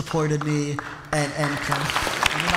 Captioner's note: applause